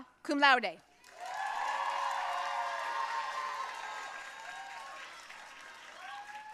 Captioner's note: audience cheering and applauding